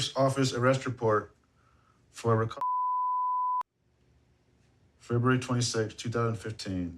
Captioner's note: beep